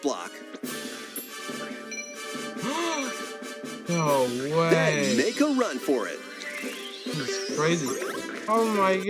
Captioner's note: gasp, "NO WAY!!!"